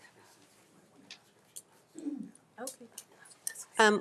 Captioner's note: speaking faintly